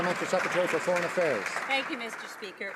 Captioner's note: some Applause